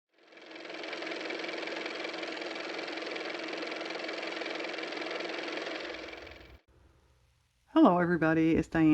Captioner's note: car motor